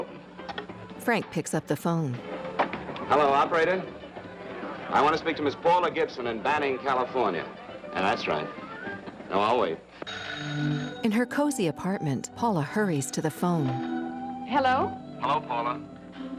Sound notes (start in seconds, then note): 11.0 telephone ringing; 12.4 soft dreamy music